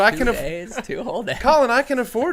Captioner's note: laughs